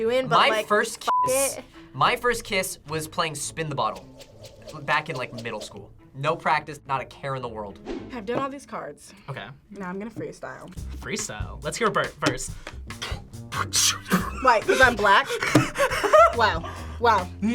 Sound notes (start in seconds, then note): 12.6 beatboxes